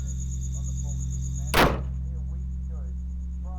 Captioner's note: door closes